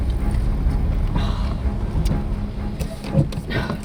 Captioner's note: sighs